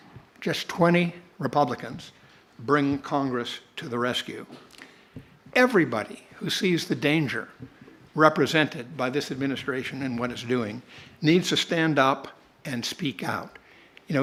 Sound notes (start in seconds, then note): none